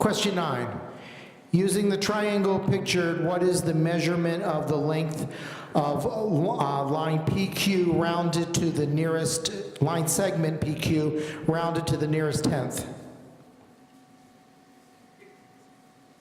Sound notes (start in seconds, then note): none